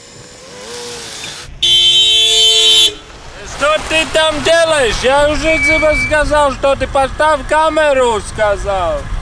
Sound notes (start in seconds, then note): 1.5 car horn